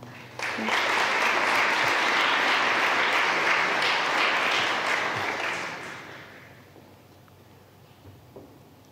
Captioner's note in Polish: oklaski